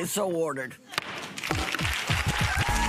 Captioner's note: gavel pound; audience applauding